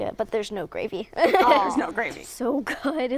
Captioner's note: laughter